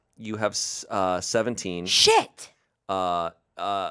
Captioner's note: none